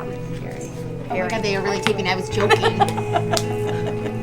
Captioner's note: laughing